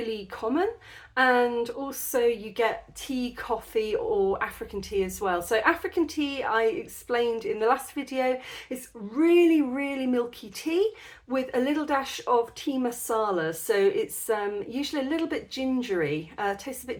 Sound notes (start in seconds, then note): none